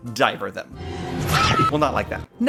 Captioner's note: screams